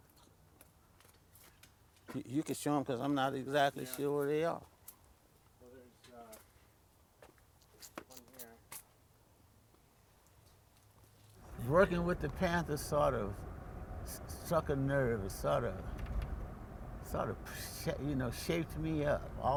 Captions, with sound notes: You can show him, because I'm not exactly sure where they are. - [Voiceover] Well, there's one here. - Working with the Panther sort of struck a nerve or sort of. Sort of shaped me up.